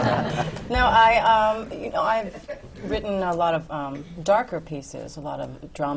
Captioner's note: laughter